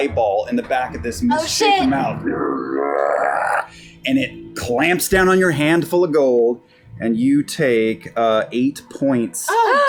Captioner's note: growls